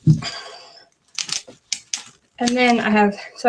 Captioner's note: sighs